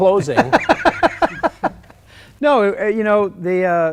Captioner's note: laughter